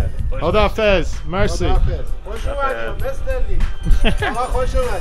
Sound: speaking Farsi

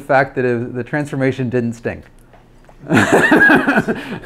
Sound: laughs

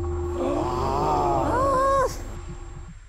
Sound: the room was filled with sighs

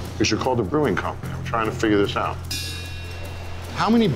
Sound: bell dings

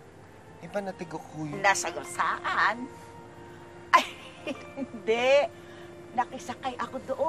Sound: laughs

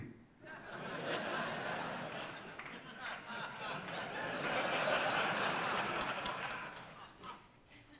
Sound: laughter

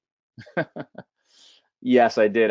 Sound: laughing

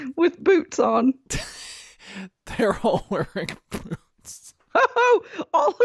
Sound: laughing

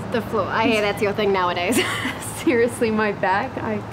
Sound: chuckles

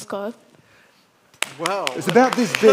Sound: audience claps

